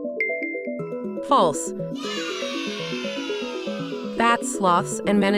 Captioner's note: children cheering